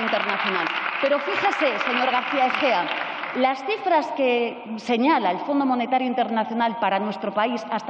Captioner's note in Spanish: Aplausos